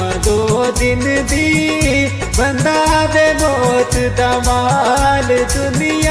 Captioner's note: none